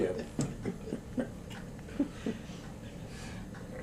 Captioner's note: laughter